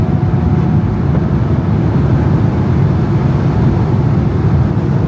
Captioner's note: engine rumbling continues